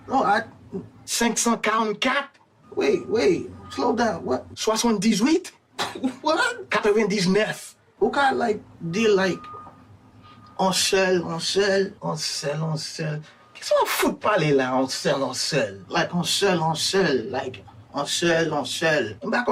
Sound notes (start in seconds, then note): 0.7 character speaking in Creole; 4.8 character speaking in Creole; 8.2 speaking in Creole; 12.4 character speaking in Creole; 16.2 speaking in Creole